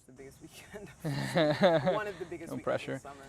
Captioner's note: laughs